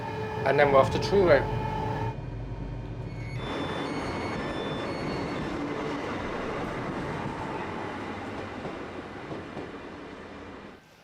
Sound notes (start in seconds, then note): 1.6 train engine; 3.1 doors beeping